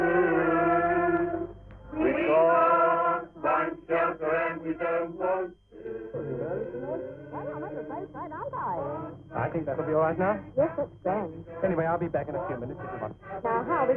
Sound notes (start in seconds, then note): 6.1 passengers chatting